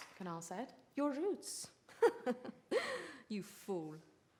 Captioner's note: laughs